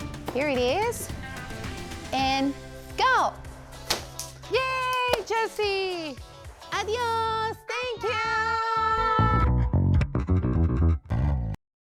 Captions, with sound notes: Here it is. And go. (stick hits piñata) Yay! Josie! Adiós. Thank you. (bass music)